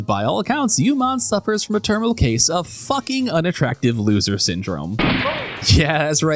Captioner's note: gunshot